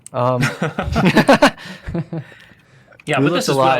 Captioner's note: laughter